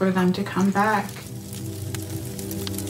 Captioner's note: sound of fire crackling